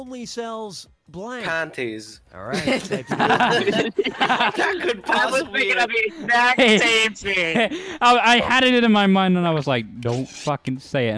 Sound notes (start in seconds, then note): 2.5 laughter